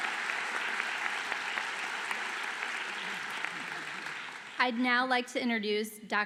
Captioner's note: applause